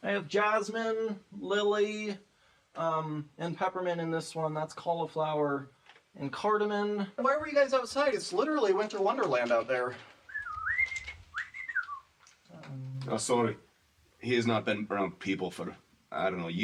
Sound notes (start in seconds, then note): 10.2 whistling